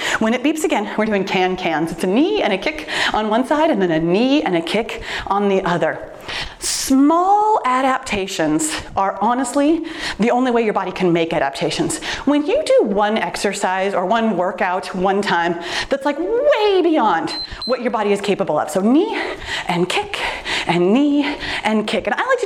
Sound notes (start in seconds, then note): 17.0 timer beeps